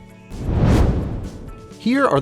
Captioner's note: whoosh